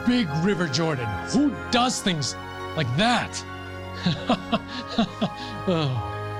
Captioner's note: laughs